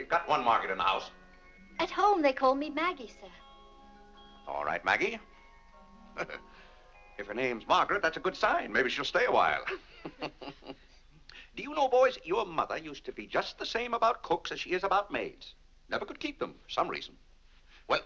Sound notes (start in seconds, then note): 6.1 chuckles; 9.6 laughs